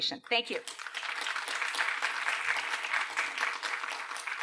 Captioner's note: applause